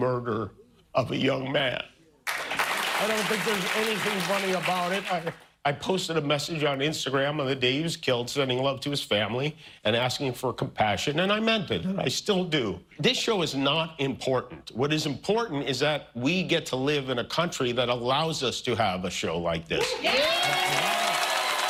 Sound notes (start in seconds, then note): 4.6 applause